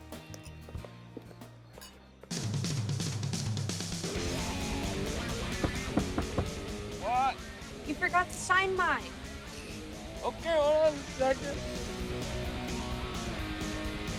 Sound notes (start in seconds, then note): 0.1 upbeat rock music; 5.5 knocking; 13.9 upbeat rock music